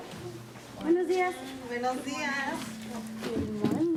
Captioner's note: speaking in Spanish